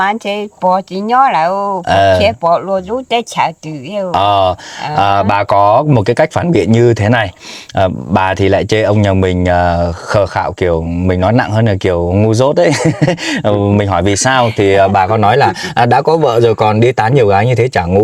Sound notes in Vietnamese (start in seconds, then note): 7.3 khịt mũi; 12.6 tiếng cười